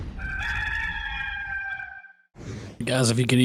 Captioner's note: rooster crows